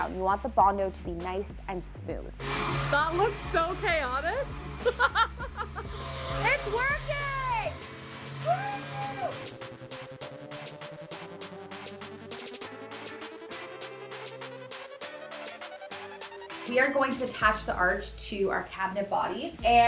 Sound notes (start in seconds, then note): 2.4 sander whirring; 4.9 laughs; 10.2 upbeat pop music continues